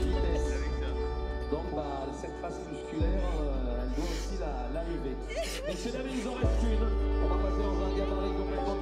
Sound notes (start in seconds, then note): 2.7 french PA chatter